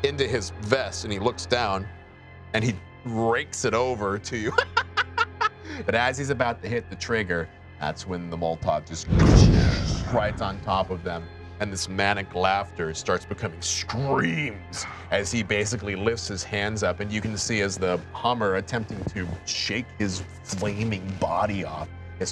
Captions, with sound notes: into his vest and he looks down. And he rakes it over to you (laughs). But as he's about to hit the trigger, that's when the molotov just (flames rumbling) rides on top of them. And this manic laughter starts becoming screams as he basically lifts his hand up. And you can see as the Hummer, attempting to shake his flaming body off,